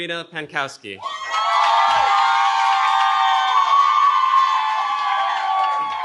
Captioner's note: cheering